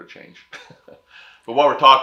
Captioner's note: laughs